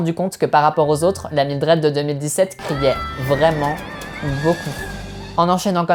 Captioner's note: faraway yelling